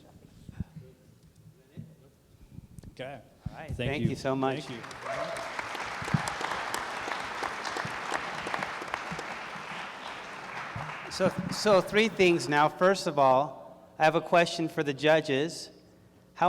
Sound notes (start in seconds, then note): 4.5 applause